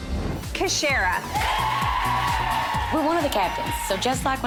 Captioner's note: girls cheering